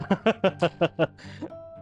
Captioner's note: laughs